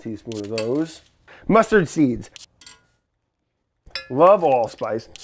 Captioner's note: spoons clinking